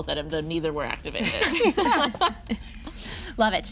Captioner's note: group laughing